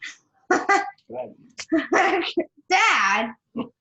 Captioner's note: laughs